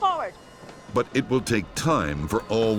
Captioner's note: voiceover